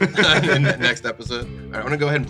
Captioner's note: laughs; laughter